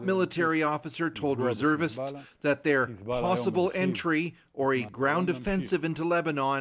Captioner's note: speaking alternate language